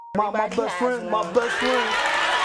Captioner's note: audience cheers